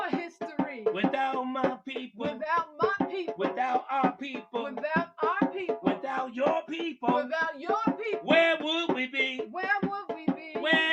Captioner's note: echoing